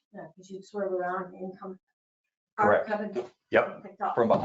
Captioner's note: blows raspberry